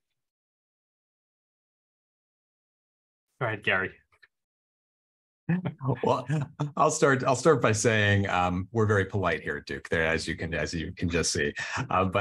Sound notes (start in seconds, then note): 5.5 chuckles